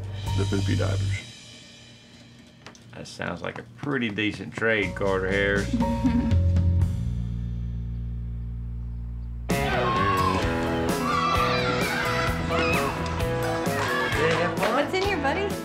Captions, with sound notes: THE POOPY DIAPERS. THAT SOUNDS LIKE A PRETTY DECENT TRADE CARTER HARRIS. [CHILDREN SHOUTING] WHAT'S IN HERE, BUDDY?